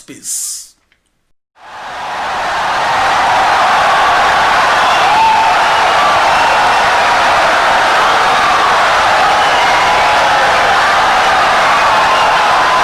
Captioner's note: wild applause and cheering for 17 seconds